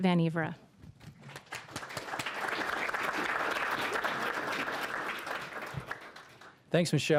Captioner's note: applause